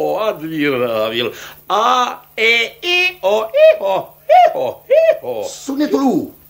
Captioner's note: imitates a donkey